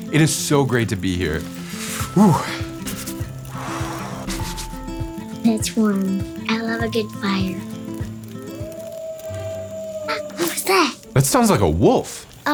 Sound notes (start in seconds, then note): 8.6 wolf howling